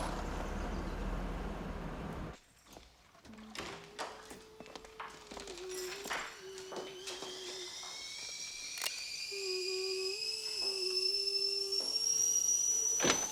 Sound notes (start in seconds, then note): 5.4 kettle whistles